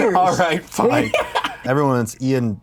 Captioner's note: laughs